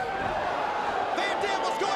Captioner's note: crowd groaning